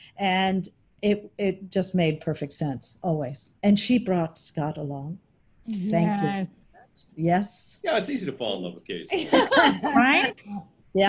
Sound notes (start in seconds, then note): 9.1 laughing